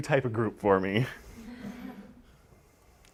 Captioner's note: laughter